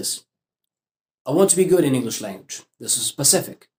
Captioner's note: in English language